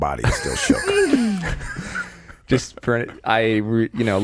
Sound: laughing

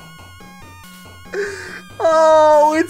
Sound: continued laughing

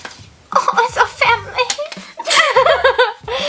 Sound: laughs

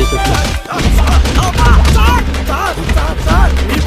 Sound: commotion

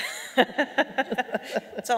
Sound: laughing

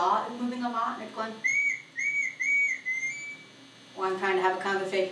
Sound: whistling

